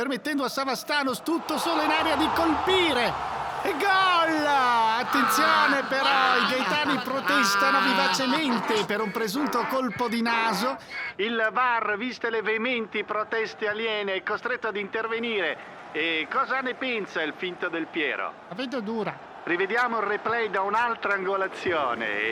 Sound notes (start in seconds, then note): 4.4 all exulting